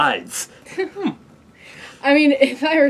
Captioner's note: laugh